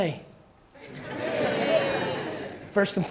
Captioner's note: audience laughter